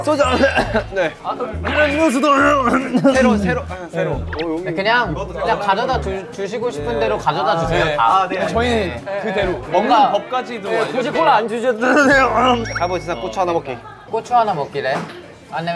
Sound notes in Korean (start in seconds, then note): 2.6 콜록 콜록